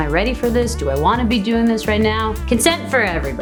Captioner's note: foreign language